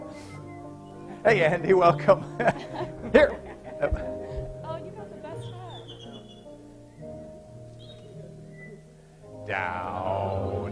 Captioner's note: laughter